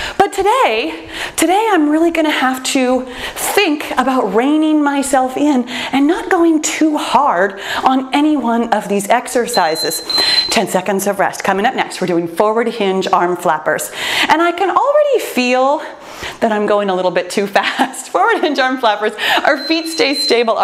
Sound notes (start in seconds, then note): 9.4 timer beeps; 17.7 laughs; 19.4 timer beeps